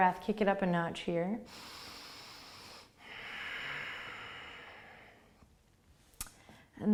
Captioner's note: breathing